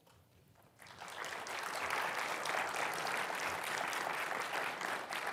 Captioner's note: audience clapping